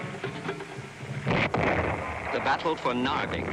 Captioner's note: guns blasting